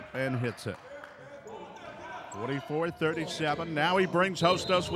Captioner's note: clapping